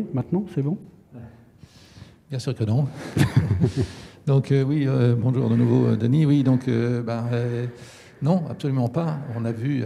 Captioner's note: laughs